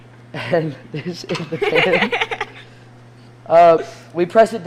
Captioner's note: students laughing